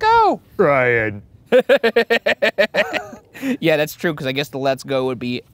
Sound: laughing

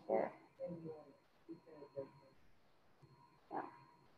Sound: speaking faintly

